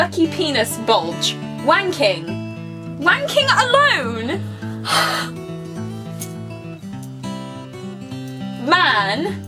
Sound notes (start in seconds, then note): 4.4 sighs